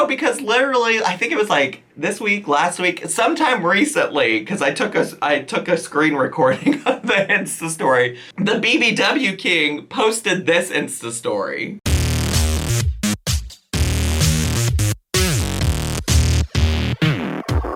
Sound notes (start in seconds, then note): 6.5 chuckling; 12.0 upbeat electronic music